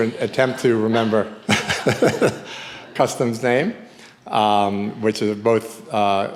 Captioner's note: laughs